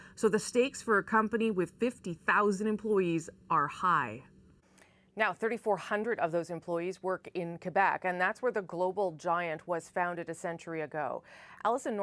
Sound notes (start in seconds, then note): none